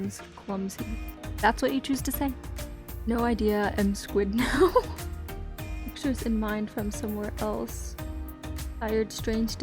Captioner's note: laughs